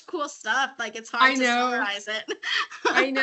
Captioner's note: laughing